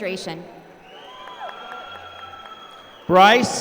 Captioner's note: applause